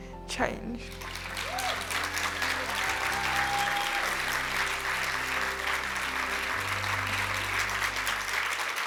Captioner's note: cheers and applause